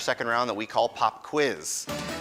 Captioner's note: none